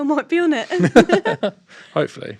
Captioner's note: both chuckling